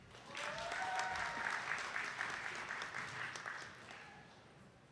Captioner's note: attendees clapping